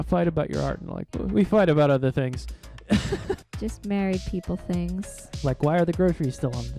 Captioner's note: laughing